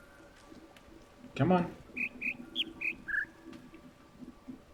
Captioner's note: bird chirps ˧ ˧ ˥ ˧ ˩